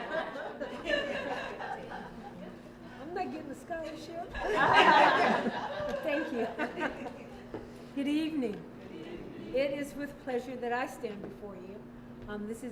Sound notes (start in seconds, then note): 4.3 laughter